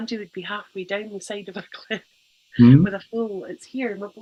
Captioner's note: laughs